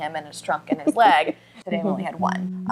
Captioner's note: chuckles